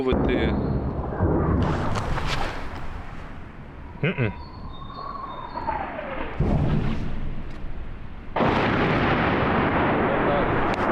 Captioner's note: series of loud explosions from incoming fire heard in proximity